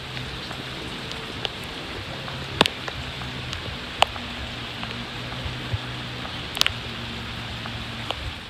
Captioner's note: continuous heavy rain